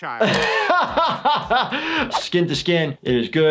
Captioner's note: laughs